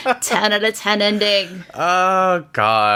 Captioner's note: laughs